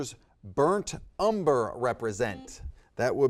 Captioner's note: buzzer beeps